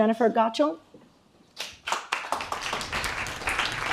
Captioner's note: applause